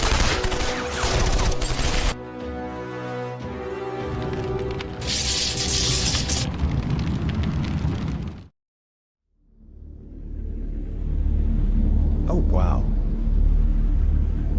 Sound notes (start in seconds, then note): 4.0 flames whooshing; 4.1 electricity crackles; 9.3 tense ambient music